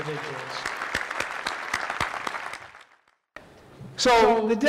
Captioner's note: applause